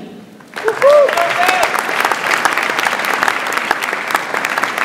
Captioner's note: audience applauds